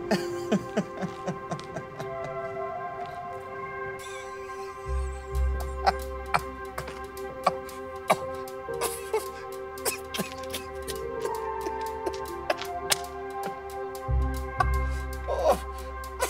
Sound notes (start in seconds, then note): 0.0 Flavio laughing; 8.0 Flavio coughing; 9.8 Flavio laughing; 13.2 uplifting music